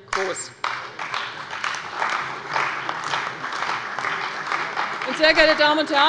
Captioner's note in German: Beifall bei der CDU und dem BÜNDNIS 90/DIE GRÜNEN